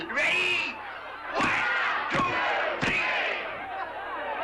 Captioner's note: crowd